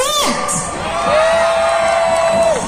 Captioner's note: crowd cheering